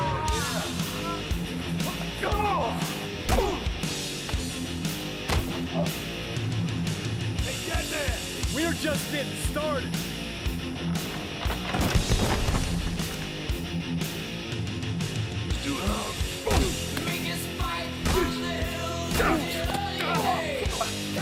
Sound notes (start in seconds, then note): 0.1 AJ crying out in pain; 5.6 Undertaker grunts; 15.4 wrestlers grunting